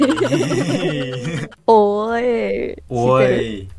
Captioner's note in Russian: японский